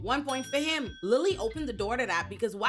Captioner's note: bell dings